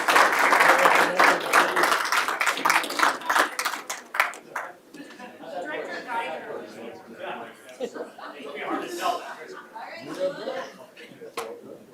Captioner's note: applause